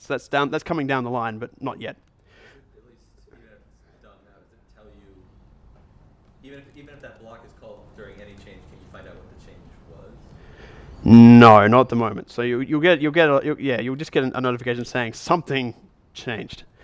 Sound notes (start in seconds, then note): 2.3 voiceover